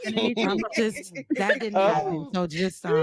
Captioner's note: laughing